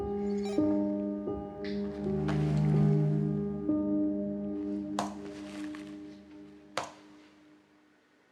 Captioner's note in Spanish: sonido electrónico